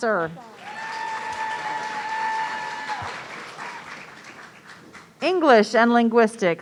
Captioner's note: audience cheering